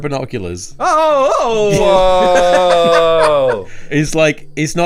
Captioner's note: laughing